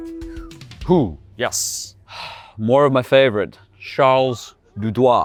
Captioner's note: sighs